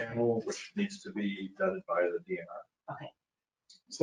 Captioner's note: speaking faintly